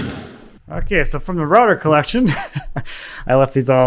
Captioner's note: chuckles